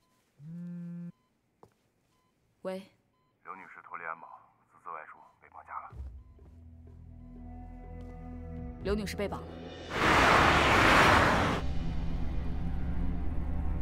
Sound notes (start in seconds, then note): 1.2 silence